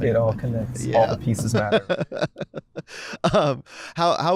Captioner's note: laughter